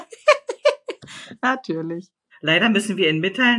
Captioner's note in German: Lachen